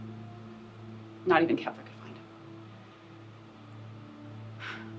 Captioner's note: sighs loudly